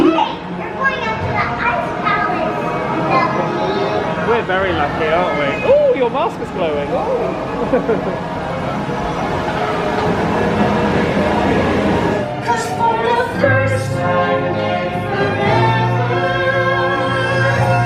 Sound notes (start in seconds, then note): 7.5 laughing; 8.7 water gushing